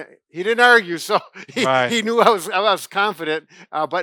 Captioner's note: laughing